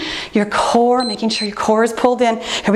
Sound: timer beeps

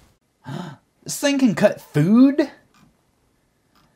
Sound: gasp

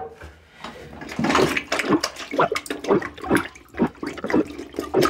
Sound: water splashing

